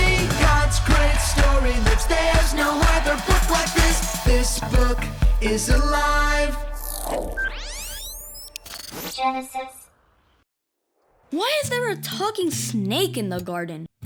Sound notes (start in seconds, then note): 6.8 electricity crackling; 8.9 robot Voice